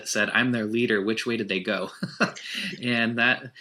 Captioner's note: laughs